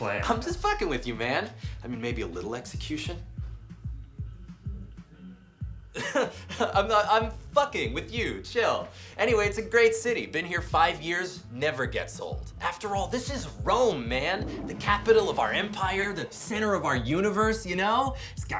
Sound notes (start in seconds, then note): 6.0 laughs; 13.1 toilet flushes